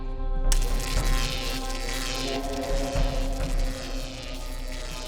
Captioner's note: intriguing music; zapping